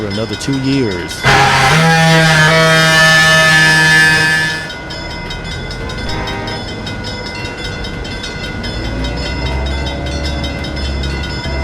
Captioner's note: WP F7A horn, locomotive bell ringing, locomotive powering up